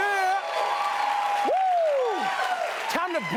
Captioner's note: whooping; cheers and applause